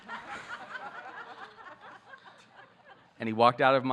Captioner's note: audience laughing